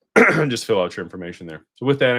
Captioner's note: clears throat and cough